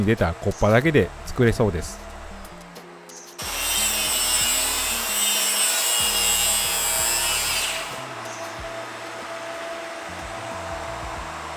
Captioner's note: applause